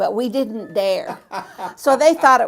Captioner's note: laughs